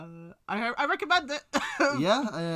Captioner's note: awkward laugh